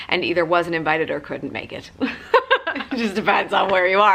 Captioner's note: laughter